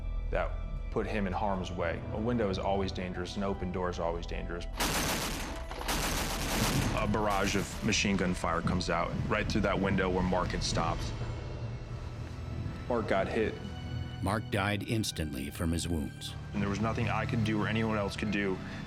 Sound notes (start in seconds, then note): 4.8 gunfire